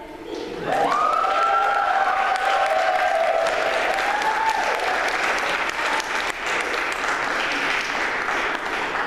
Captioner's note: applause